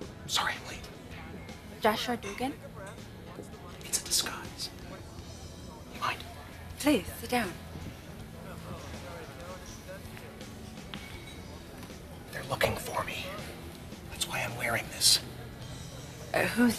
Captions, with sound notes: [ Whispering ] SORRY I'M LATE. JOSHUA DUGAN? IT'S A DISGUISE. DO YOU MIND? PLEASE. SIT DOWN. THEY'RE LOOKING FOR ME. THAT'S WHY I'M WEARING THIS.